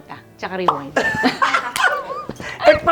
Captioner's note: laughs